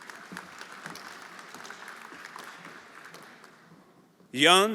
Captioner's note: everyone applauding